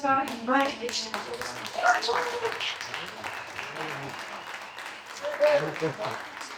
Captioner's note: applause